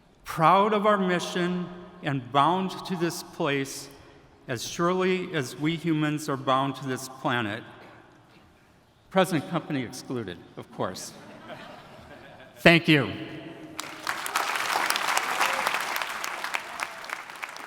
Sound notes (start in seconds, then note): 11.1 attendees laughing; 13.7 attendees applauding